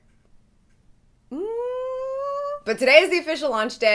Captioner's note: humming